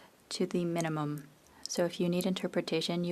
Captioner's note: speaking French